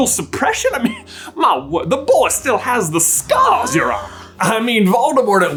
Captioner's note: gassssp